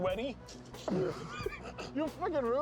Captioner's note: laughing